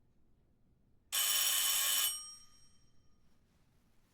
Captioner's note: bell rings